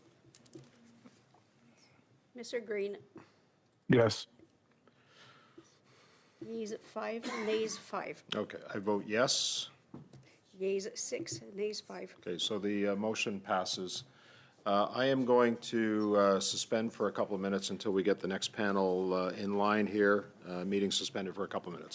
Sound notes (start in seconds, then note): 3.9 speaking French